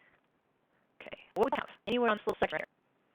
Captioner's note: glitching speaking